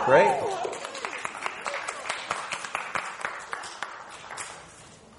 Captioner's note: audience applauding